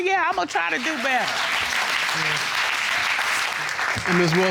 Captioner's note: audience applauding